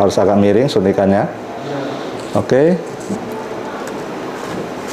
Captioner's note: distant chattering